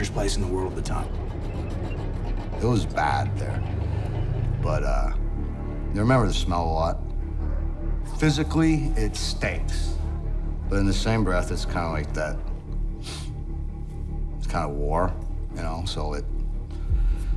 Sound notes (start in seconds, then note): 13.0 sniffs